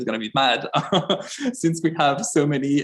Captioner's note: chuckles